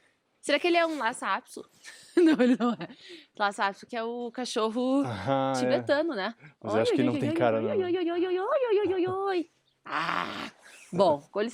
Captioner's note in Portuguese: risadas